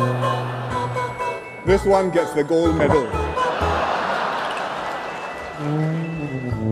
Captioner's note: laughter